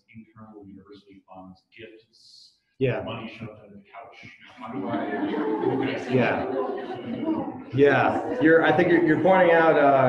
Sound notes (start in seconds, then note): 4.5 audience laughs